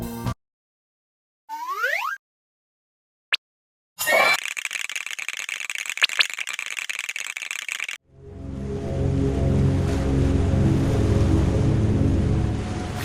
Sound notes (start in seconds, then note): 1.5 ascending whistle; 4.4 shivering; 6.5 more shivering